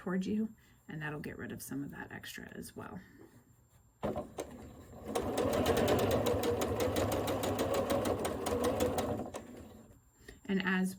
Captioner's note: sewing